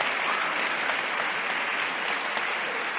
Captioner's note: applause